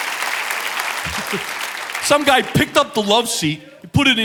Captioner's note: chuckles